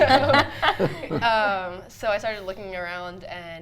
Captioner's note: everyone laughs